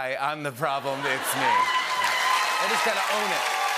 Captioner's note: laughter, cheering, and applause